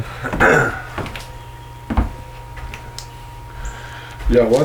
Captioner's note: throat clearing